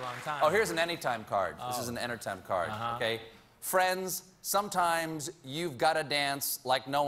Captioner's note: applause